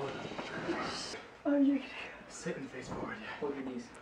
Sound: scuffling

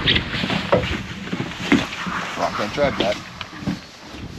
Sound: reel cranking

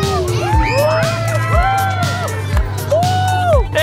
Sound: cheering

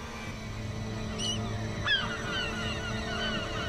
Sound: loud squawking

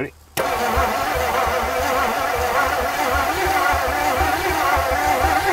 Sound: vehicle engine humming

